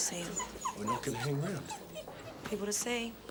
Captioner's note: wolf whining